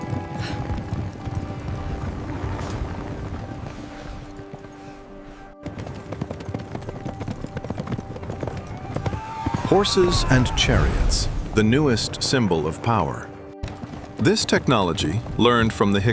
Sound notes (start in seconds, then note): 0.0 instrumental music plays; 8.3 horses neigh; 9.6 horse hooves gallop